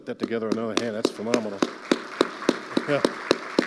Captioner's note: audience applauding